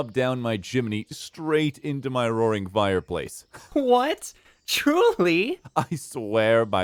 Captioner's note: chuckling, amused; incredulous, laughing